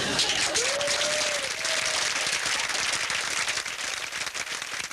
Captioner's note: audience applauding